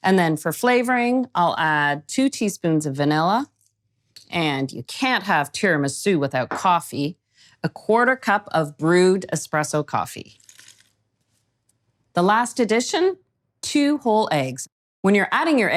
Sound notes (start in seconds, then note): 10.4 coffee pouring